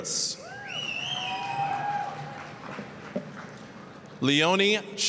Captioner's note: applause, cheering